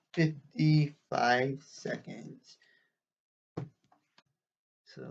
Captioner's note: thunk of book against desk